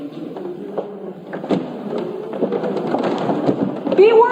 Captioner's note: offstage humming hymn